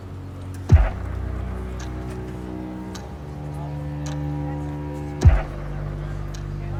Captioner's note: dark string music continues; clock ticks rhythmically